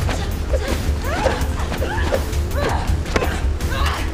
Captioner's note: both groaning